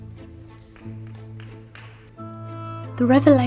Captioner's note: scattered applause